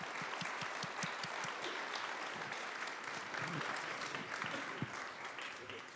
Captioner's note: applause